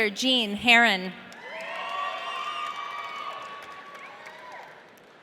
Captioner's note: audience cheering